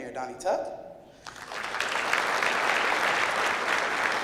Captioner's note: clapping